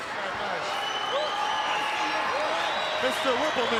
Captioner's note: crowd yelling